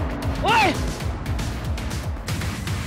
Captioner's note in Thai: เสียงโมโห